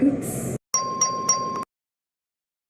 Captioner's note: ding, ding, ding